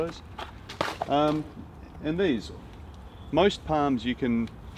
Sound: palm sheath thumps on ground

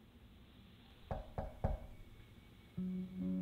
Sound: knock knock

